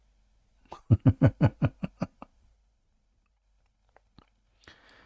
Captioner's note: Ketawa